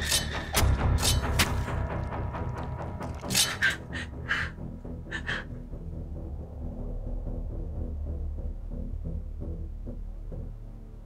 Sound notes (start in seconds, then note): 3.0 Jenelle breathing heavily; 3.6 tense sinister music